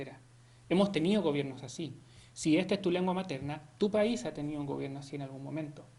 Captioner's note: Spanish